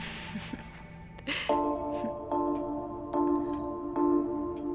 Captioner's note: Falguni giggling; Clock ticking